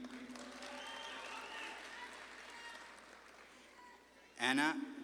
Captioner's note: audience claps and cheers